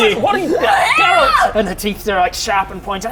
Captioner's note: aaaaaaaarh!